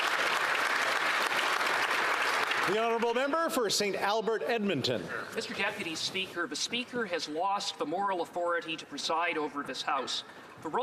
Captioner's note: applause